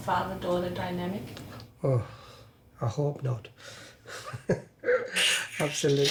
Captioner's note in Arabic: يضحك